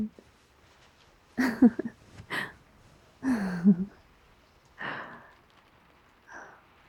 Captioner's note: laughs